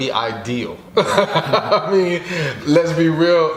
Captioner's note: laughs